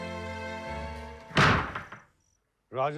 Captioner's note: door slamming